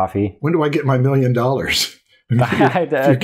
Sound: chuckles

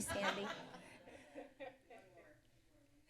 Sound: laughs

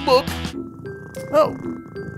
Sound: purring

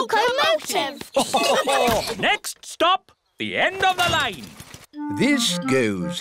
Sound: laughter

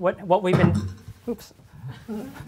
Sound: knocks microphone

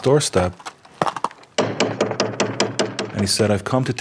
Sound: knocking

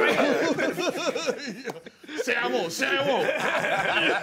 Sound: laughter

